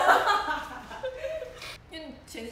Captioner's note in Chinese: 大笑